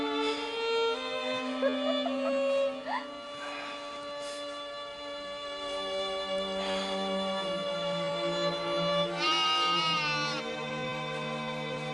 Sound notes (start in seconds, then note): 1.5 Rebecca laughing